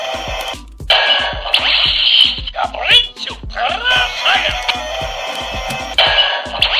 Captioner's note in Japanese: 獣電池装填音